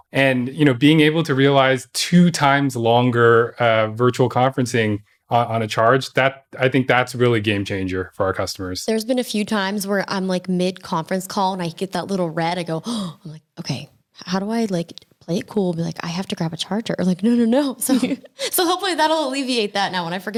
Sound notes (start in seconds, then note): 17.8 laughing